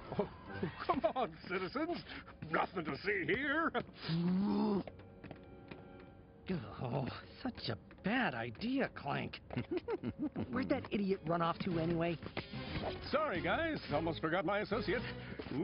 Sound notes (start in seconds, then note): 4.1 growls; 9.4 giggling